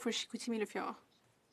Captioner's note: speaking French